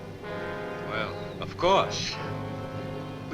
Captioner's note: chuckles